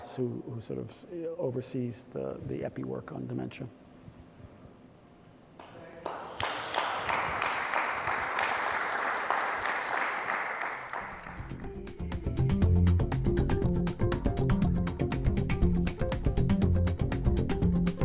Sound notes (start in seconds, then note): 3.7 applause